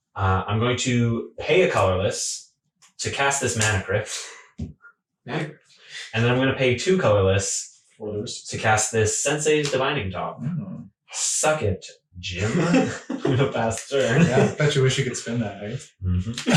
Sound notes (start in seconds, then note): 14.8 laughing